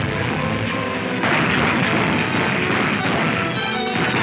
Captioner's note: gunfire roaring